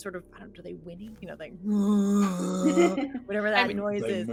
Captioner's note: imitating a moose